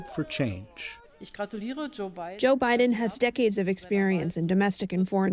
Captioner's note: through translator